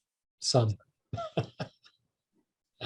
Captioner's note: laughs